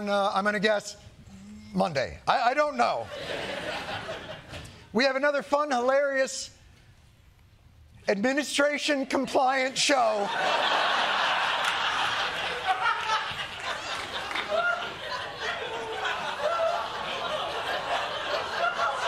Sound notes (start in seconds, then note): 3.0 laughter; 10.8 laughter